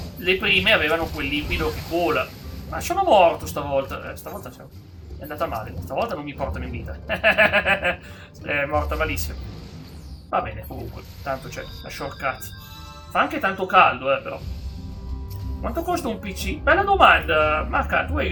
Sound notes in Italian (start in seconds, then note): 7.0 risate